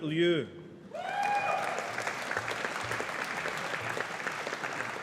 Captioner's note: audience applauding